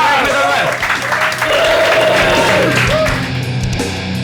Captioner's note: applause